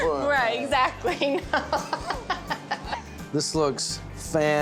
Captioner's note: giggling, laughing